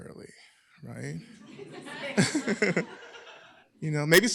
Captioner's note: laughter